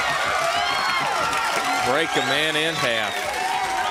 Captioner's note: crowd cheering